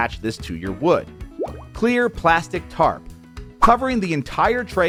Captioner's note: water bubbling